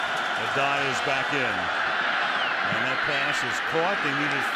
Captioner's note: laughs